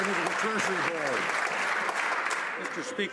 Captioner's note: some Applause